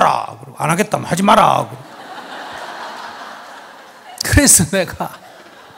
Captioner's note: audience laughs